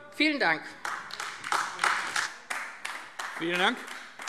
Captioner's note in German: Beifall AfD